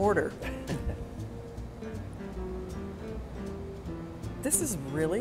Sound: laughs

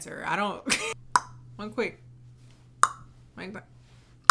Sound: tongue popping; tongue popping

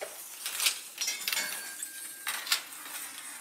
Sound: rattle and clank

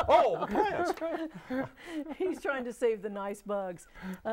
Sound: laughing

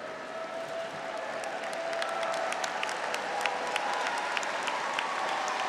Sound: audience and graduates applauding

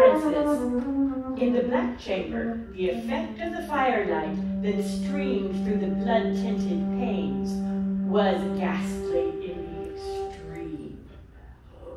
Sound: sound of a gasp

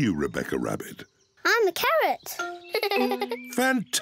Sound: laughs

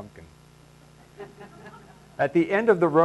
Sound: laughing

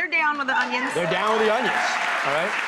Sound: audience clapping

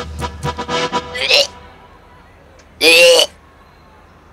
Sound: retching

